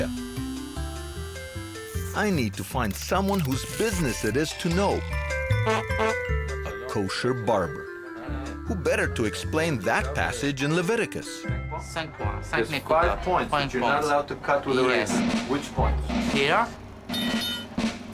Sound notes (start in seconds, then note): 0.0 clippers buzzing; 5.5 cartoonish honking; 11.9 speaking with heavy accent; 17.9 bells chiming